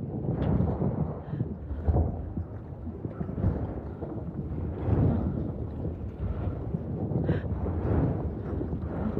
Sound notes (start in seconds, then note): 1.8 muffled thunder rumbling continues